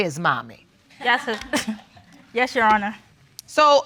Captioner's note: laughs